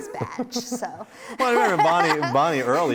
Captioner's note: laughs